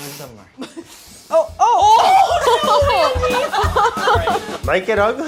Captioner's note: laughs